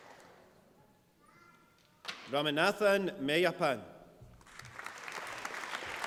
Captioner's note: applause